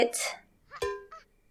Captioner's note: thonk SFX